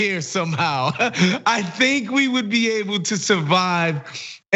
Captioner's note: laugh